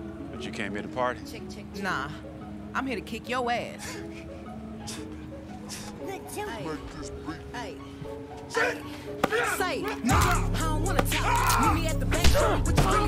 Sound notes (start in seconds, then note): 3.9 all laughing; 11.1 screaming and groaning